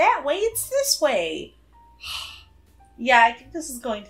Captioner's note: sighs